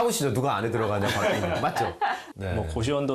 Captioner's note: hahahahahaha